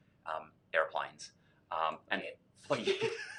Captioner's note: mumbles; laughing